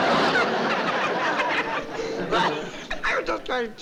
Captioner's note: laughter